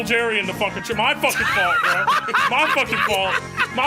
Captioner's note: all laughing